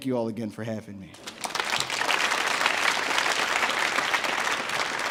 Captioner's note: audience applauds